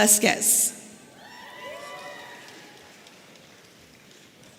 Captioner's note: audience cheering